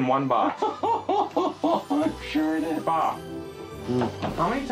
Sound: laughs

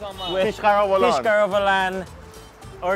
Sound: men speaking foreign language

